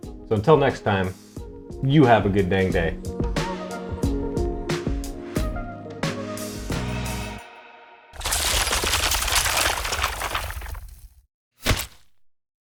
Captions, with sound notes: - So, until next time. You have a good dang day. (upbeat music) (bricks falling)